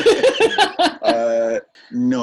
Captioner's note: laughs